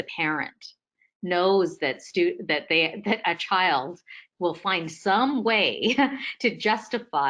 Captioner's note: laughs